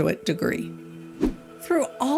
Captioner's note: air whooshing